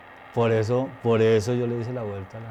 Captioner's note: speaking foreign language